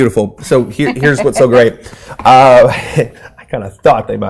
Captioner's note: laughing